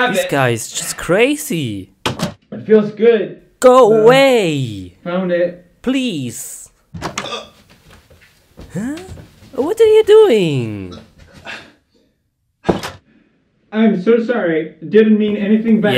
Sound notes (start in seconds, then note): 7.1 choaking